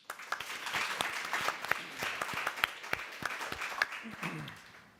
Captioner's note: applauding